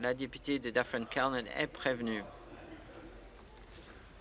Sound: voice trailing

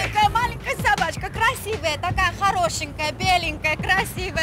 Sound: speaking Russian

